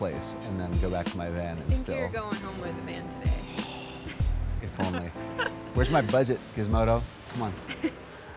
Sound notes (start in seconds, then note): 3.4 frustrated sigh; 4.7 laughs